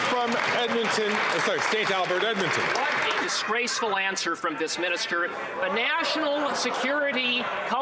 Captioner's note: some Applause